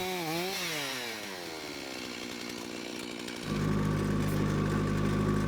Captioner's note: chainsaw buzzing; skid-steer whirring